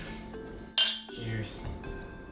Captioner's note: glass clink